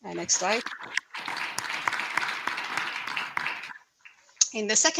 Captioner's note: applause